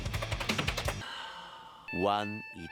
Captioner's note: sigh